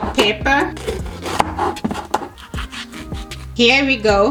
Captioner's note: knife scrapes